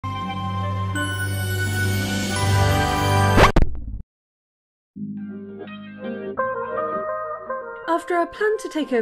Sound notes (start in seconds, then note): 0.2 magical music; 3.3 record scratch